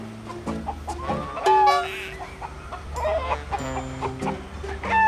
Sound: the sound of a chicken coming from somewhere...?

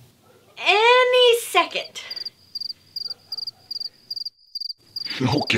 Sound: sound of crickets

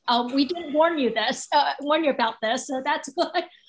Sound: laughs

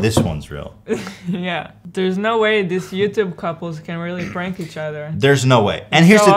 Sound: giggles

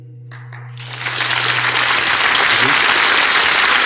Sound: audience clapping

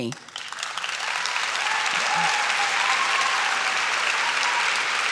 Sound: audience claps and shouts

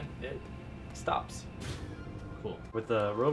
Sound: generator shutting down

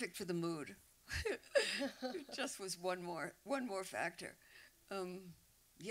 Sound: laughs

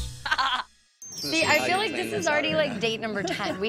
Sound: laughs

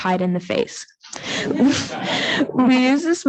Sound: audience laughing

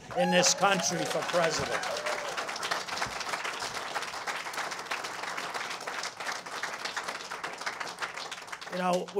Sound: cheers and applause

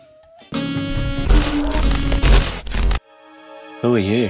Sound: horror sounds

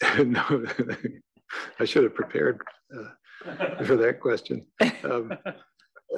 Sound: laugh

